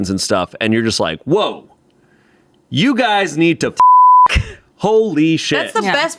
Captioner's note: beep